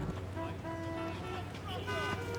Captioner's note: horns honking